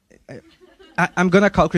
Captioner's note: audience laughing